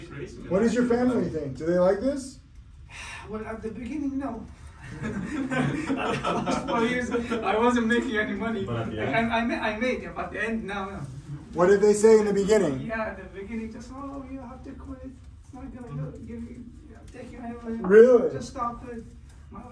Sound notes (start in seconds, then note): 4.8 everyone laughs